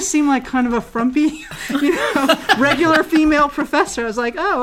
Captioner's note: laugh